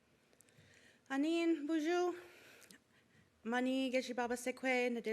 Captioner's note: foreign language